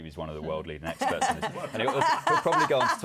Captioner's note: laughter